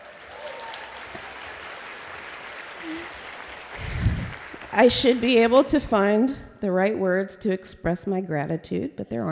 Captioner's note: applause